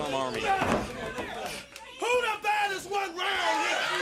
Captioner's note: crowd cheering